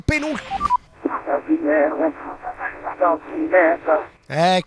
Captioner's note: radio communication